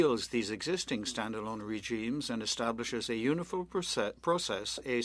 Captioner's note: speaking French